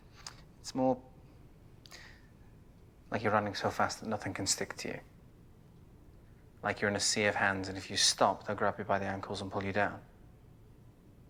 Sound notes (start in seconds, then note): none